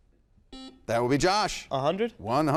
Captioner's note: buzzer beeping